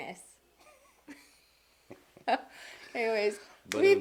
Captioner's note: laughing